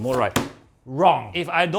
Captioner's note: slams box